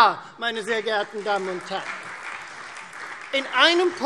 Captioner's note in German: Beifall Freie Demokraten und DIE LINKE